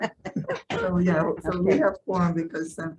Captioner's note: chuckles